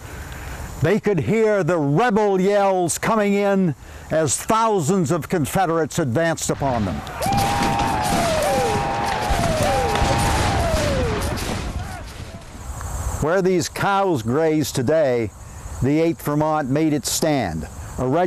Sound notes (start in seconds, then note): 7.1 men yell